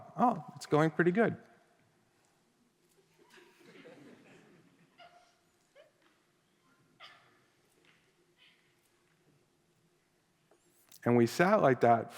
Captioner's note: silence